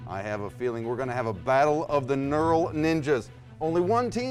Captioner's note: none